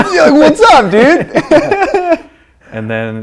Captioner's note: laughing